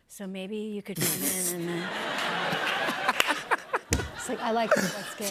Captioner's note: laughter